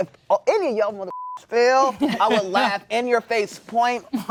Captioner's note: beep